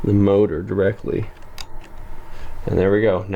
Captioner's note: gentle clicking sound